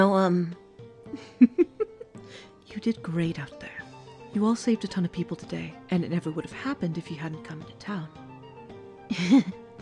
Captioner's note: chuckling